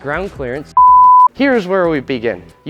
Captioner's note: tone beeps